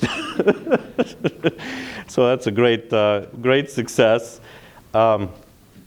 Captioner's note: laughter